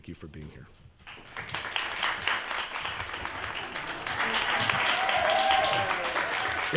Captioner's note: applause